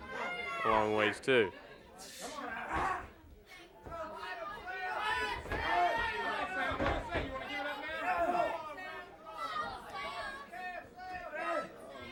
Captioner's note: crowd chatter